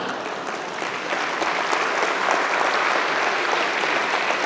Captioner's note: audience applauding